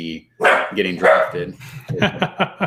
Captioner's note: barking; laughing